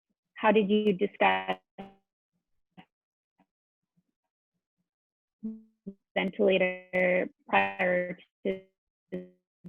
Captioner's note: audio cut out